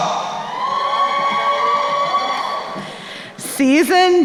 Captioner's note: crowd cheering